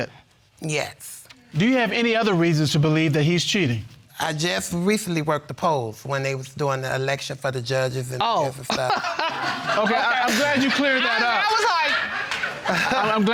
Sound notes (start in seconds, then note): 8.9 all laughing